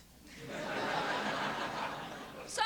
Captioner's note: laughter